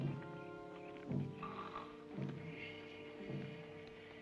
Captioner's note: snoring